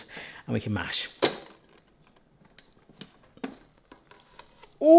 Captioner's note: lid clunks